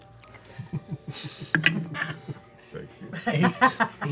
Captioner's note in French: rire